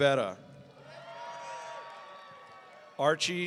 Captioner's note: audience cheering